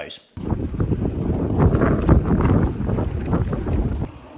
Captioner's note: wind whistling